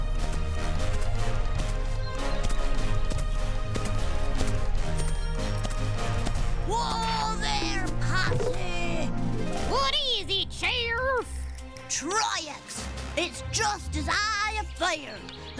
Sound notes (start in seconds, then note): 9.1 cowboy accent